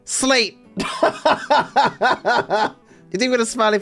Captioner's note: laughing